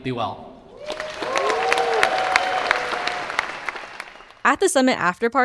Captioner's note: audience cheering